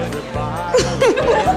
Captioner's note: laughing